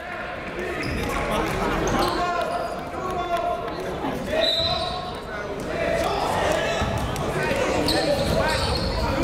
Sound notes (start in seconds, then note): 0.2 chatter; 4.4 whistle